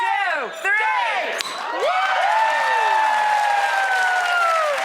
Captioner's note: audience cheers